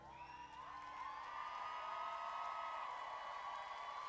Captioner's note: audience cheering